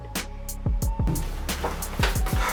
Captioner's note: door swings open